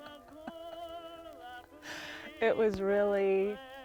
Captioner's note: laughs